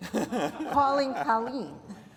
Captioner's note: speakers laughing